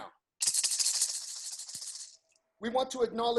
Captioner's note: rattles